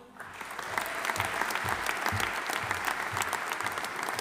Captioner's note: audience applauding